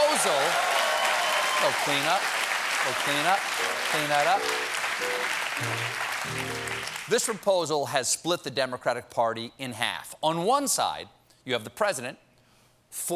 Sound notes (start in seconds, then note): 0.0 cheers and applause; 7.1 piano riff